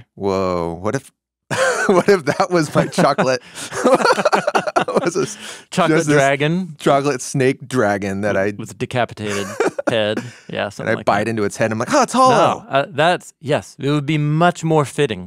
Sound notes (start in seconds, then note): 3.9 both laughing